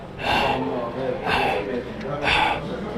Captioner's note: heavy breathing